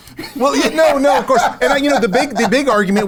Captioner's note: host laughs